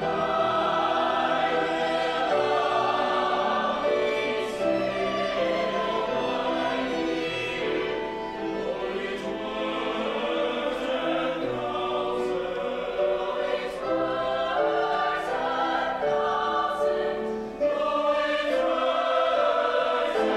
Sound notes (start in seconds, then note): 13.2 high voices; 17.8 whole choir